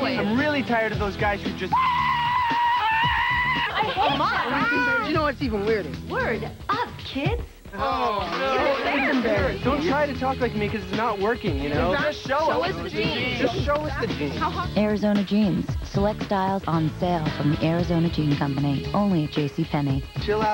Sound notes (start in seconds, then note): 1.7 EXTREME! screaming; 7.8 group groans, "oh, no"